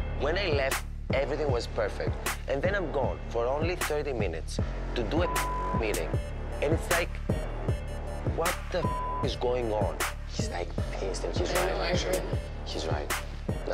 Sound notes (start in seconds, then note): 5.2 beep